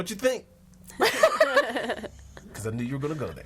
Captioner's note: all laughing